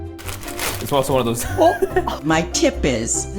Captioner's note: laughing